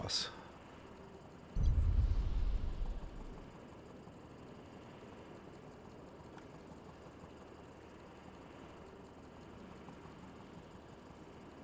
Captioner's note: wind howling